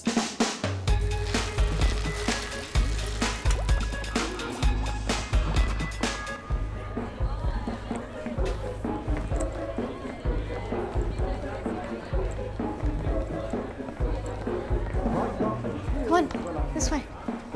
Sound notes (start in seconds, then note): 0.0 energetic music playing; 6.6 people chattering